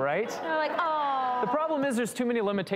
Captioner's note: audience laughing